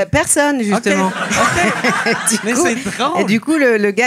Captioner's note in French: rires